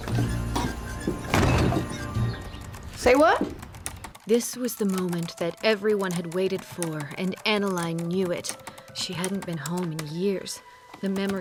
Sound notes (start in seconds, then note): 4.3 typing